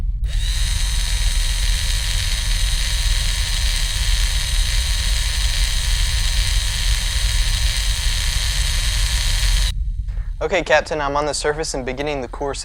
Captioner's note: drilling